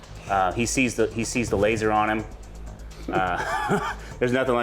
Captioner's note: chuckles